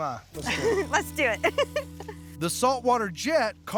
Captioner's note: laughing